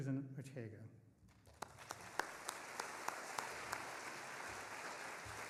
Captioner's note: audience applauding